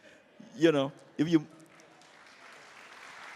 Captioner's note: applause